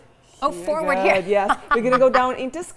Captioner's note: laughs